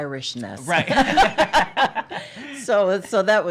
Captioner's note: laughter